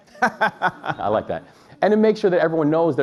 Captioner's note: laughs